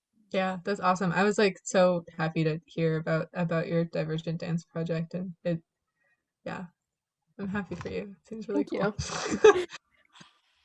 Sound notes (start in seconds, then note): 9.0 laughing